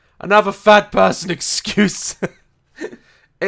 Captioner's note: laughs